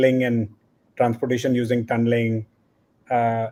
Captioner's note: none